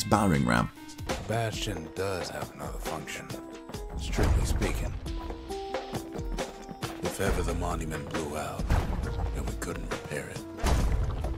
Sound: in-game audio

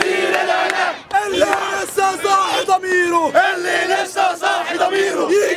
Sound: chants

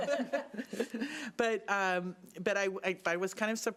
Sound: laughing

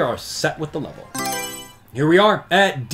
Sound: Mario Selection Sound

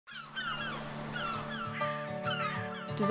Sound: seagulls cawing

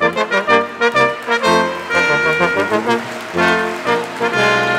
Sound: audience applauding

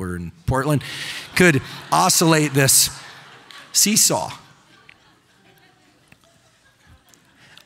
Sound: audience laughing

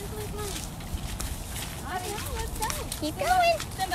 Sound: leaves crackling

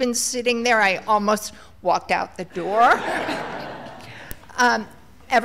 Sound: laughter

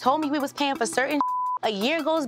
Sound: beep

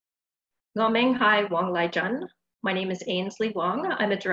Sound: Cantonese

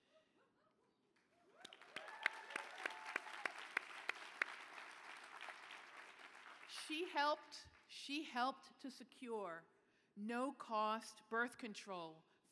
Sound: applause

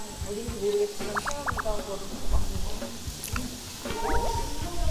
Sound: nom nom nom

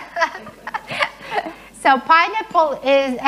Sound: laughing

